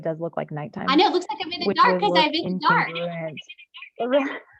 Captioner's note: murmurs